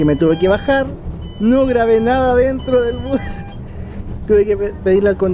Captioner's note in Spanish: risas